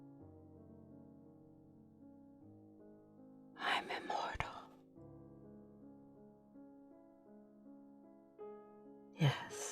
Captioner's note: whispering